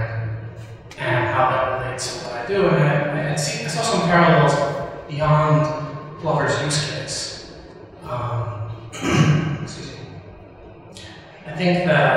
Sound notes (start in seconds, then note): 8.9 clearing throat